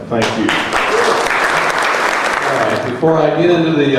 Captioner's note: crowd applauding